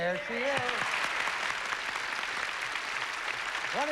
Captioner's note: applause